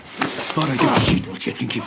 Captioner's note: man grunting